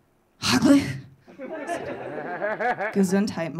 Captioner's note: audience laughing